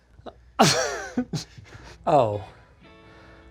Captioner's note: laughing